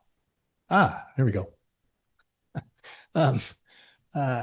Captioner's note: chuckles